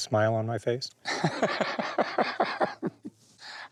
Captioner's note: chuckles